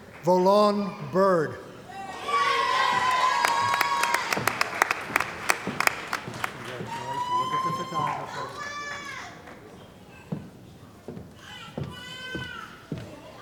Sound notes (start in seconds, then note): 1.9 cheering & Applause